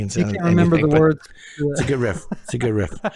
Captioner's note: laughs